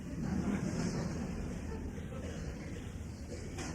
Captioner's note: laughter